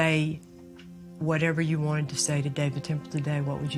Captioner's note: voice breaking